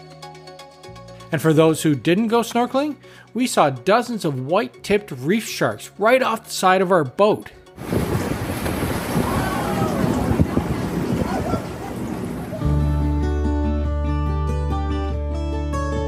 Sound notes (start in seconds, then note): 7.7 water flowing; 13.2 gentle music